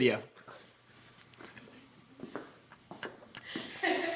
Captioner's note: laughing